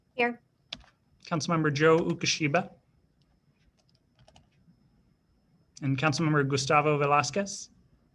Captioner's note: silence